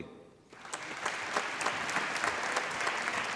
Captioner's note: applause